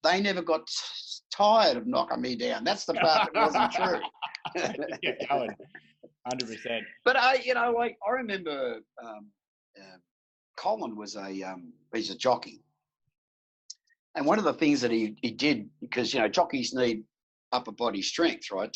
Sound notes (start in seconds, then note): 2.9 both laughing